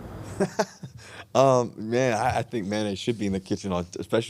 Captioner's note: chuckles